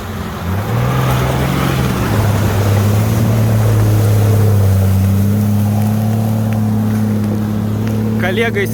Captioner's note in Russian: Звук рёва мотора